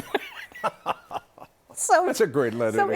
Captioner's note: laughter